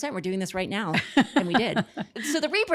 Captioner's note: laughs